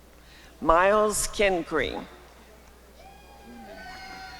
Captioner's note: applause and cheering